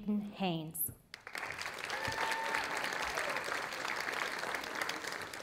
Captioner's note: audience applauding